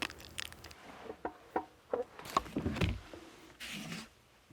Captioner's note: chair scraping